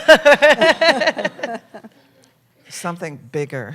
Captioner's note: laughter